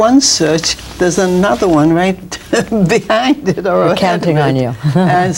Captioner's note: laughs; chuckles